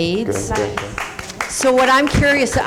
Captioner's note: clapping